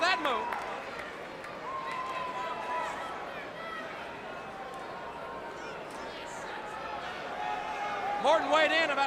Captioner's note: crowd chatter